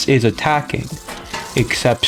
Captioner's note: inhales Oxygen